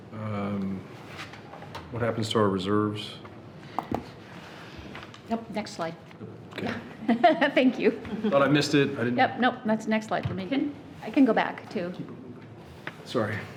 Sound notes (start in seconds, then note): 7.7 laughing